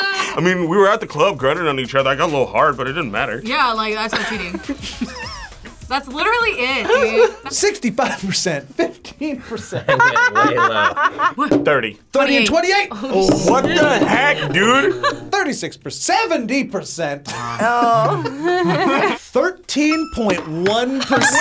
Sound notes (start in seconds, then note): 0.0 group laughs; 4.1 both laugh; 18.4 laughs